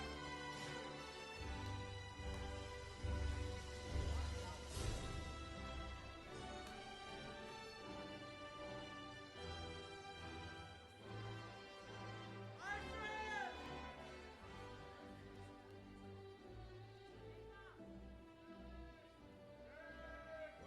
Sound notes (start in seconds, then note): 12.5 audience cheering; 16.5 processional music continues